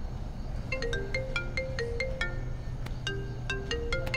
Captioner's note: Phone ringing